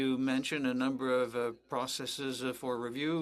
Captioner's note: speaking French